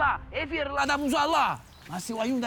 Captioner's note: shouts angrily